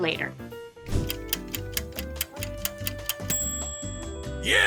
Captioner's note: clock ticking